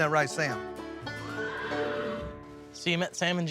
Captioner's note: horses neighing sound